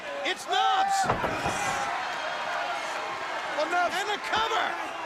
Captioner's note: crowd cheering